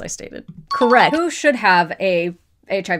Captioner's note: question dings